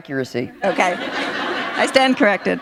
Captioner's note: laughter